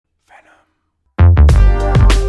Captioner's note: whispered